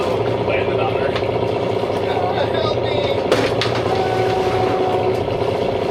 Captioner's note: engine revving